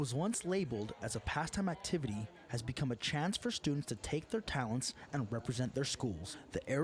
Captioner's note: cheers